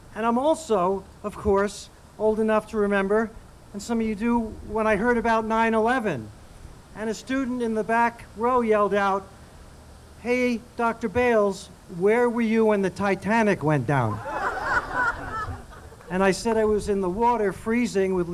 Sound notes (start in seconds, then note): 14.0 audience laughing